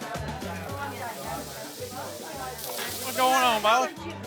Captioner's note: steak sizzling